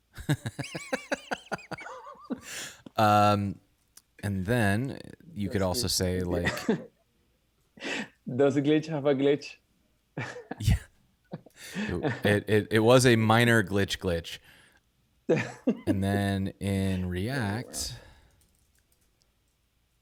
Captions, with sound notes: (laughing) And then you could also say, like-- - Does Glitch have a glitch? - Yeah, (chuckles) it was a minor Glitch glitch. (laughing) And in react, oh my, wow, okay.